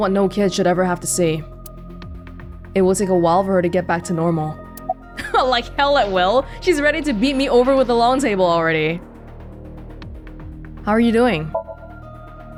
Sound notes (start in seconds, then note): 5.2 chuckles